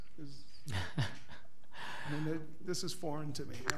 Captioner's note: laughs